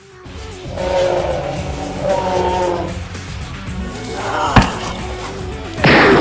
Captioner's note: roar; scream; thud; ricochet; gun fire